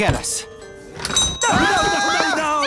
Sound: dings; all screaming

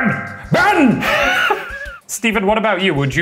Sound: laughing

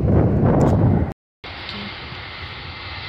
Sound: wind gusting

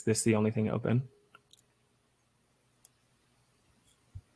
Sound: audio cuts out

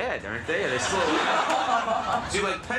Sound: girl laughs

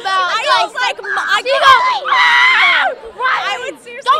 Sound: screaming

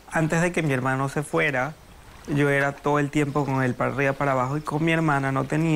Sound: speaking in foreign language

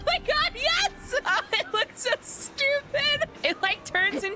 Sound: laughing

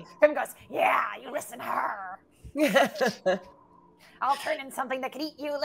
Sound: laughs

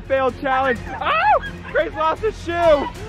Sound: screaming

